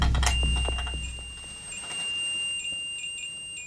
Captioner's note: REM-Pod beeping